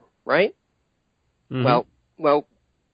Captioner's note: affirms